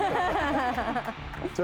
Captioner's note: laughing